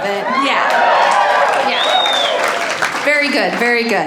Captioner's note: audience cheer